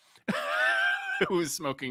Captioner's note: laughs